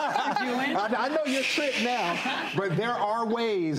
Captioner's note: shushing audience